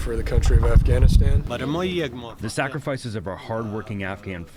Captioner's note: through translator